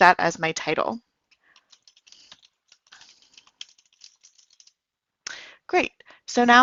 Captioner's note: keys clicking as types